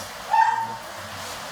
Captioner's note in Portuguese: latido agudo, pingos de chuva